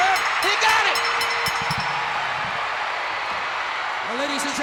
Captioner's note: bell rings